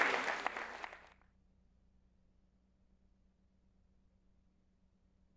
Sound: applause

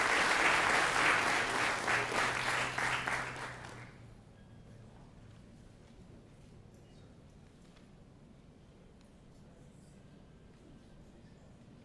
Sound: applause

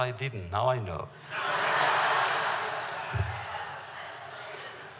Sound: laughter

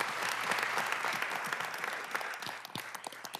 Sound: applause

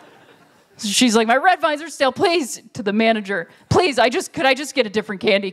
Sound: panicky voice

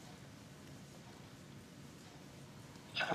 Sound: static

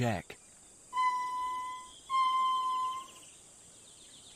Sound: lemur squeaking

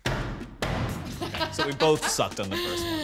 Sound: laughing

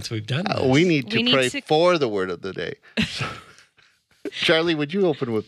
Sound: laughs

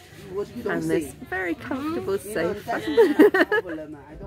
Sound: laughing

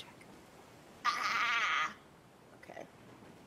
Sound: person shouting

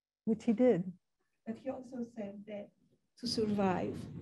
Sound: woman's Voice

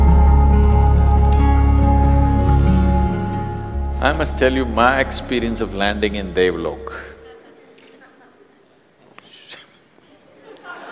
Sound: laughter

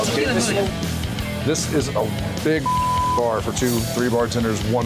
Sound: beep

